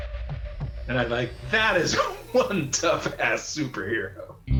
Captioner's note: laughing